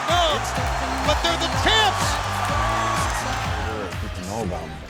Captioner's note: chuckles; crowd cheering